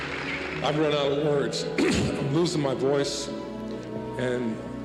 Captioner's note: clears throat